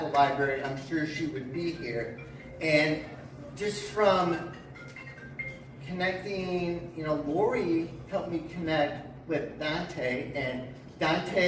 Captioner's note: cellphone rings in background